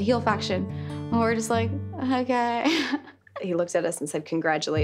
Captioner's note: Liv laughing